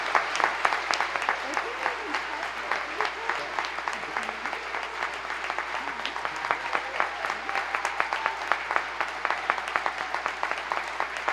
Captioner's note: applause